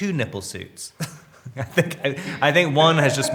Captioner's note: Robert laughs